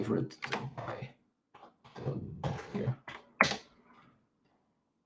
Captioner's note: keyboard clacking